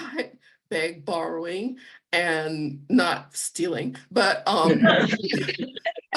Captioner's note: laughter